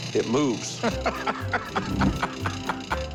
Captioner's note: Rick laughing